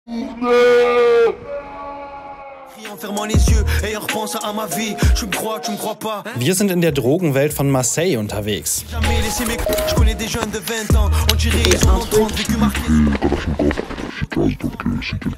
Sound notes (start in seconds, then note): 0.2 warning scream; 2.6 hip-hop music in French; 11.1 distorted, French